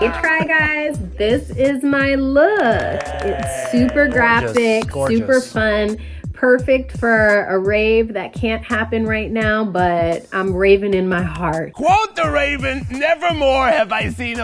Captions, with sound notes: - The Try Guys this is my look. [applauding] It's super graphic. - Gorgeous, gorgeous. - Super fun, perfect for a rave that can't happen right now, but I'm raving in my heart. - Quote the Raven nevermore have I seen